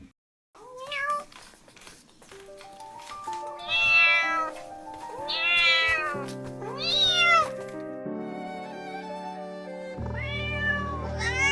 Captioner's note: cats meowing